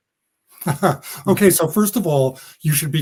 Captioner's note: laugh